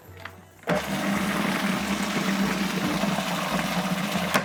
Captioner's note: whirring